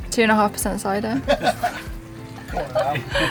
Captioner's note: laughs